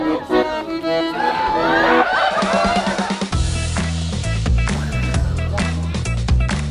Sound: cheers and laughter

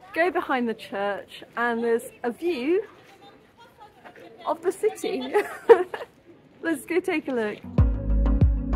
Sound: laughing; upbeat music

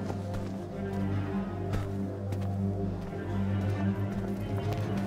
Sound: footsteps tapping

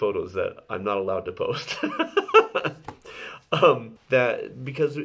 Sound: laughs

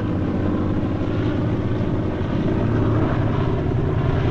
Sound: airplane Overhead

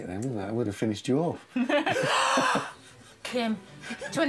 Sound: laughing and gasping

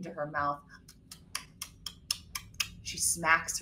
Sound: slurping

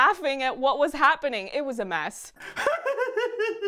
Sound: laughing

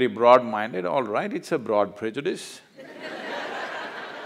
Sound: laughter

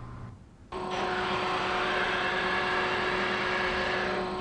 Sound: conveyor belt sounds

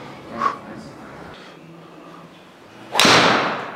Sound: exhales; ball thuds

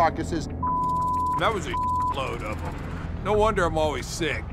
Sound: beep

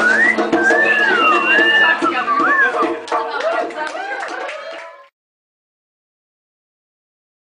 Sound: applause

